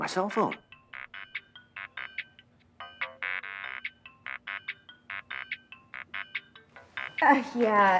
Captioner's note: cell phone rings